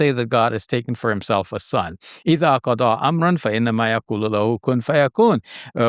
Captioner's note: speaks Arabic